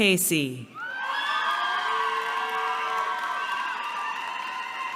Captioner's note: cheering